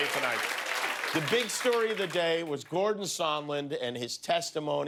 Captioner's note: cheers and applause